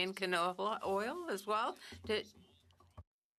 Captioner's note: speaking French